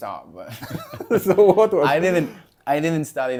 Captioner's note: laughs